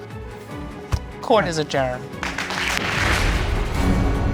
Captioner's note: crowd applauding